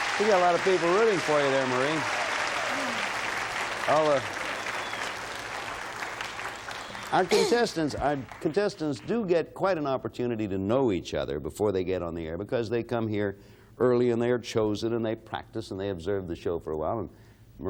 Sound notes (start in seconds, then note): 2.1 applause and cheering